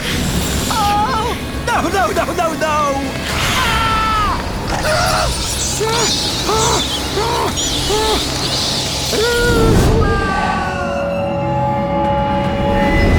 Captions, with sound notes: Oh! No, no, no, no, no! Aagh! [bats squeaking] Aaagh.